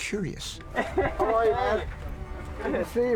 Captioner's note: LaBelle chuckles